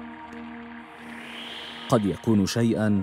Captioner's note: whooshing